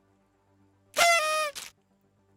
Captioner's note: party_horn.mp3